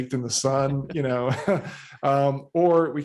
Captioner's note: chuckles